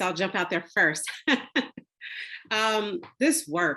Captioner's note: laughs